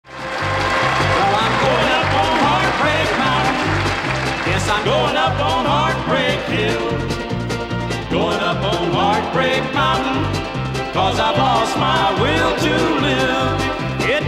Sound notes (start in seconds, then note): 0.0 audience applauding; 0.9 lively folk music